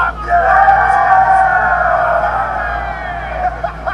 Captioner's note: crowd cheering; man holding tumbler laughs